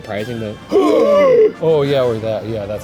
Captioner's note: gasp